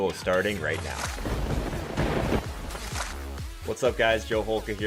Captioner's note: lightning crack and crashing thunder